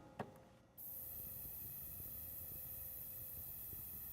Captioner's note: sizzling